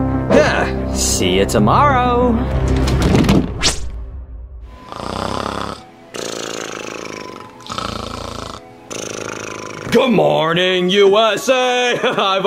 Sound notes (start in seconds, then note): 0.0 suspenseful music continues; 0.2 Junior grunting; 2.6 door thuds; 3.6 text whooshing; 4.2 soft music; 4.7 Junior snoring; 11.7 laughing